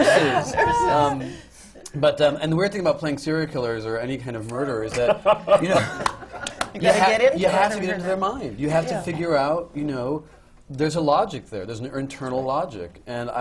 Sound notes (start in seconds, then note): 2.3 laughs